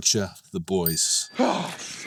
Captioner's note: tone dings